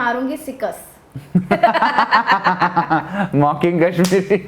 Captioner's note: laughing